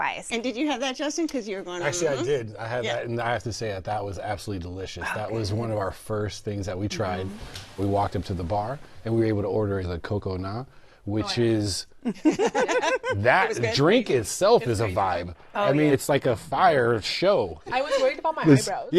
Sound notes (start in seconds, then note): 12.1 laughter